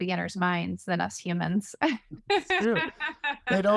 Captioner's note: laughter